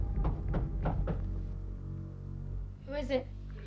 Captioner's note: Eddie knocking